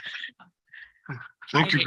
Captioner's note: laughter